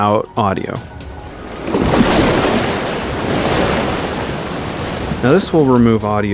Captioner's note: wave crashing